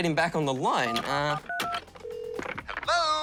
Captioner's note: buttons beep, line rings